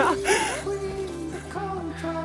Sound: laughter

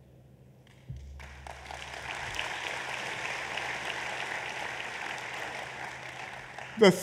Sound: applause

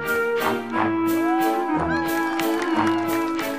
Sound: all cheering

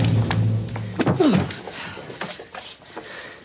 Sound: grunts

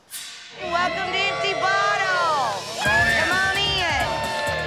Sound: patrons cheering

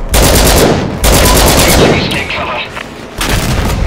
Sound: LMG fire; explosions

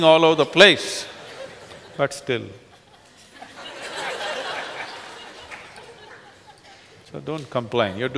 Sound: laughter

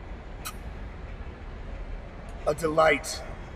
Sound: kiss

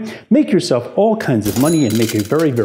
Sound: cash register ding

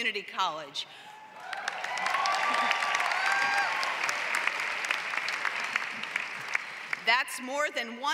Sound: applause

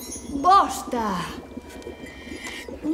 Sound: bells tinkling; humming

